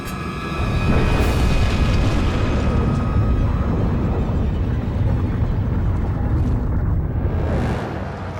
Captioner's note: explosion